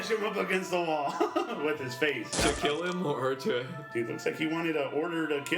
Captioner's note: giggles